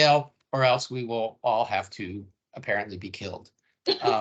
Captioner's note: laughing